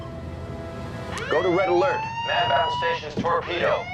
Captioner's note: alarm sounds